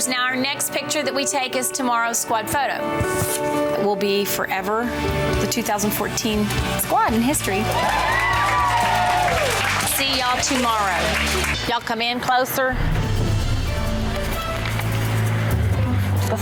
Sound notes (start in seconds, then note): 7.4 women cheering; 7.9 upbeat music; 12.6 dramatic music